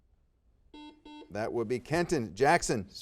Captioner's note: buzzer beeping